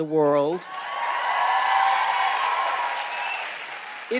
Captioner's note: cheers and applause